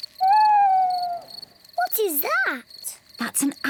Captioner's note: owl hoots